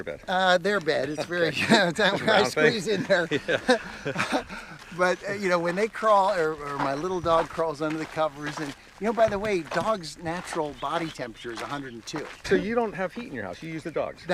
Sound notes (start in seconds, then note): 0.7 laughs; 2.9 laughter